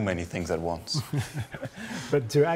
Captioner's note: laughing